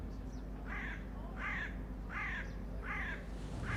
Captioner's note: bird is tweeting